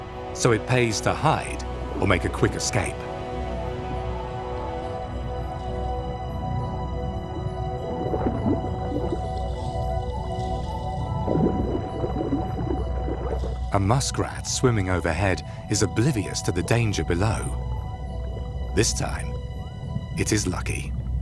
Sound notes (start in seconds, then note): 3.3 ominous music; 7.8 water sloshes; 9.8 ominous music